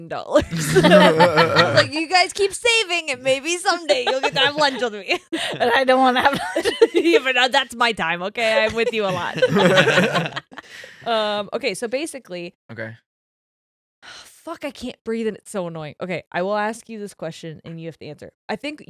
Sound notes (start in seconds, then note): 0.2 laughing; 8.4 laughing